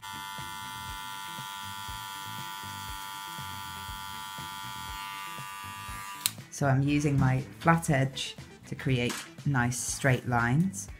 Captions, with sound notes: [CLICK] So I'm using my flat edge to create nice straight lines